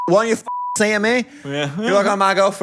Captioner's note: beep